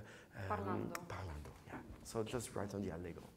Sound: speaking in foreign language

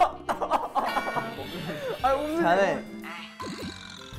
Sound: anger

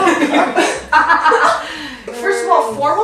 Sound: laughter

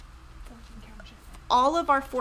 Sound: background whispers

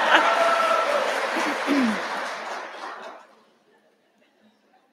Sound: laughing

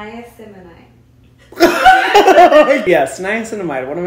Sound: laughter

